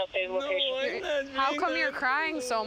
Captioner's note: police radio chatter